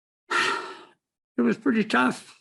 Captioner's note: sighs